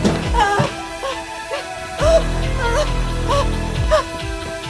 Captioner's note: dramatic music; Caroline moaning